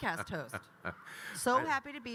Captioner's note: Kyle laughing